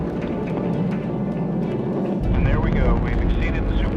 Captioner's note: applause